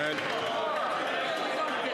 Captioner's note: some Applause